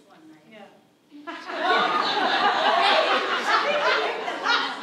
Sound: audience laughs

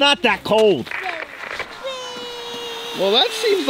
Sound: static crackles

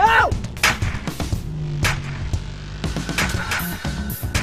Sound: gun firing

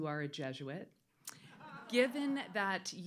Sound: audience laughs

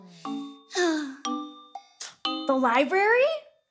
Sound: sighing

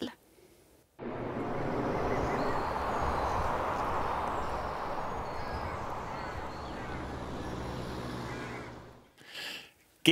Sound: whooshing transition sound, a crow caws

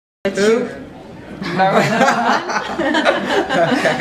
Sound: laughs

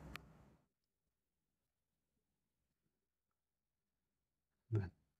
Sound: silence

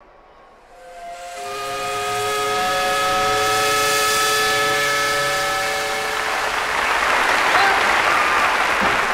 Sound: steam whistle

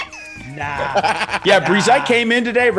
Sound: laugh

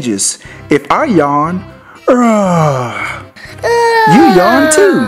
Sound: yawns

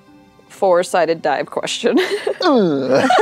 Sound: laughter

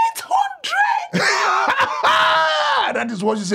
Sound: laughing

